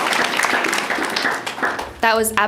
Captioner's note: applause